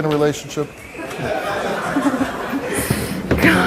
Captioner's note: audience laughs